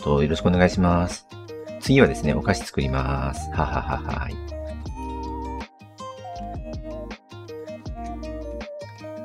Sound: laughs

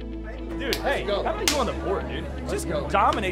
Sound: upbeat music; group cheering

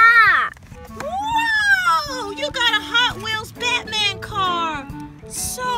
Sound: voiceover

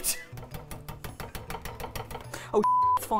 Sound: tapping; beep

